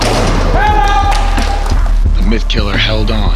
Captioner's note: people cheering